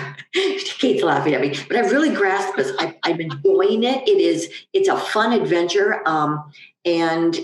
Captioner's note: laughing at me